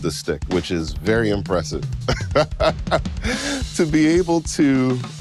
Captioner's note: laughing